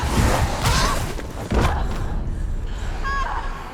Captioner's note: groan